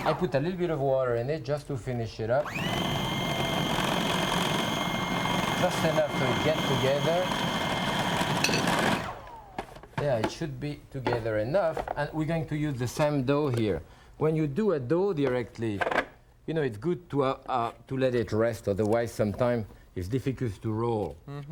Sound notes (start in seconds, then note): 2.4 blender whirring